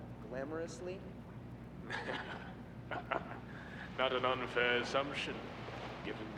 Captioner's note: chuckles